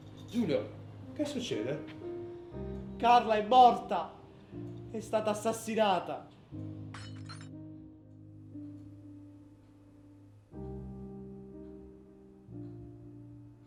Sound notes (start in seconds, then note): 6.9 mug shatters